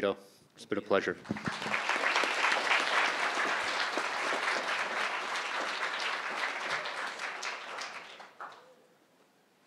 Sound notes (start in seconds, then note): 1.2 crowd applauding